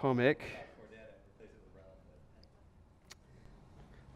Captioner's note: voiceover